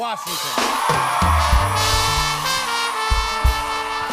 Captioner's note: cheers and applause